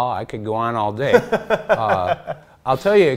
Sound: laughs

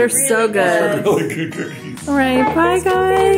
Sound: chuckles

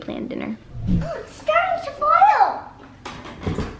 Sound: gasps

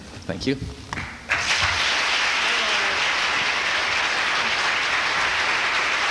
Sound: applause

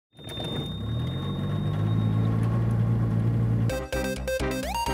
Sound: motor running; upbeat music

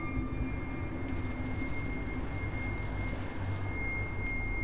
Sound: garbage bag crinkling

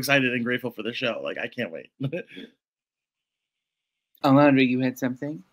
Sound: laughs

